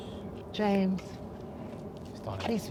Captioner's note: James faintly speaking